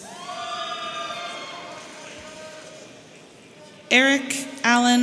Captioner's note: audience cheering